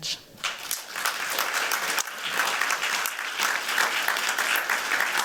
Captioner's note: applause